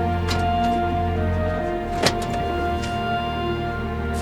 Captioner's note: brakes squeaking; doors clicking